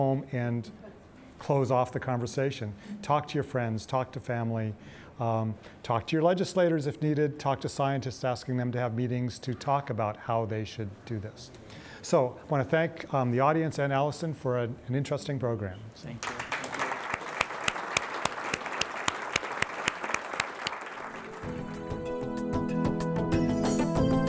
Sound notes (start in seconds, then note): 16.2 audience applauds; 21.0 upbeat music